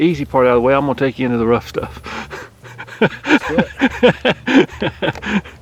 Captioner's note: laughing